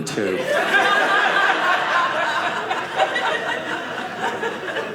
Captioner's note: audience laughing